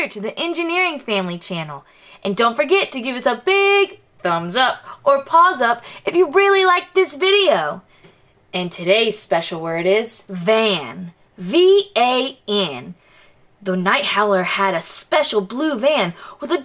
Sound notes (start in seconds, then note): none